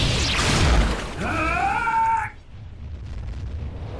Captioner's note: exclaiming